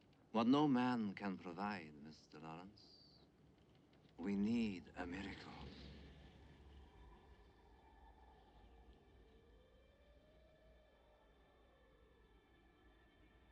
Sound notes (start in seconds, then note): none